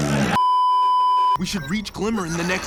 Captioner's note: beeeeeeeeeeeep